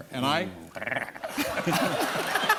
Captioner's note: growls; laughter